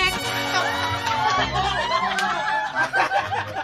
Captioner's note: people cheering; laughs